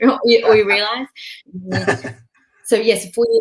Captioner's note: laughing